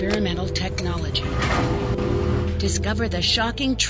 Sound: metal crashing

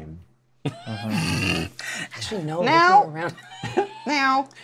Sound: laughs

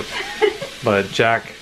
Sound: laughing

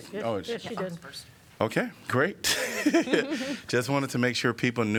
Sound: laughter

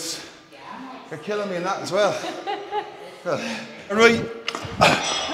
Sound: laugh

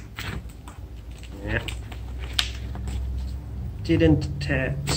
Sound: groans

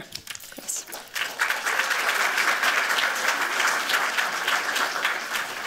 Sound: applause

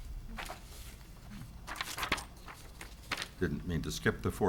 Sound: paper rustles

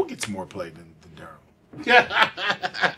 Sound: laughs

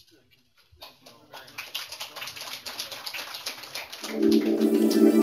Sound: applause

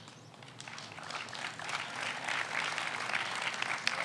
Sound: audience applauds

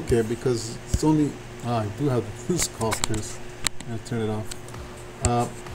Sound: speaks faintly

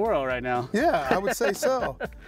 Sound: laughs

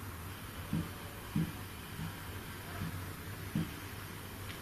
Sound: tapping

